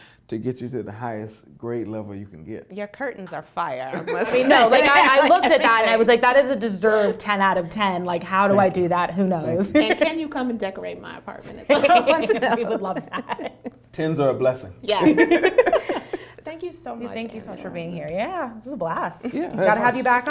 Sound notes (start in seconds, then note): 4.0 laughs; 9.6 laughs; 11.6 laughs; 15.1 all laugh